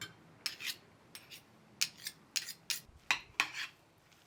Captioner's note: spoon scraping